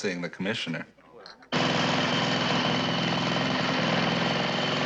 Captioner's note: motor running loudly